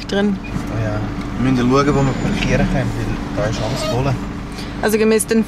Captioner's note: in Swiss German